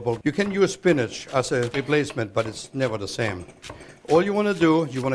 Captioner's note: chopping